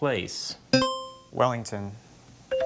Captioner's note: buzzer chimes